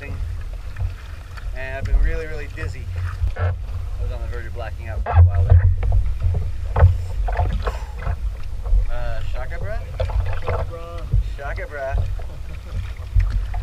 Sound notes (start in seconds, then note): 7.6 deep breath; 13.0 laughs